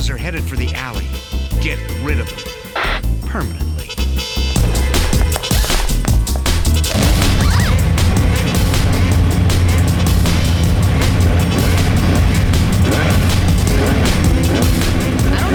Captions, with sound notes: Trespasses are headed for the alley. Get rid of them permanently. [gasps] [shrieks]